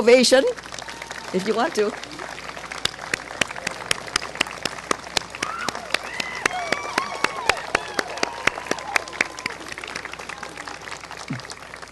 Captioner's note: clapping